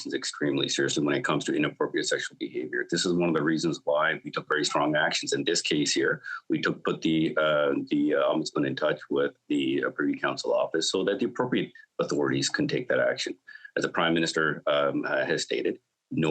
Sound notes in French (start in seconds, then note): 2.7 voix de l'interprète